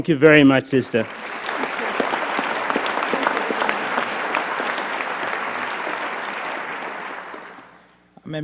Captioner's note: applause